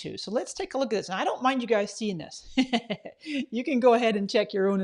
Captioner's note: laughs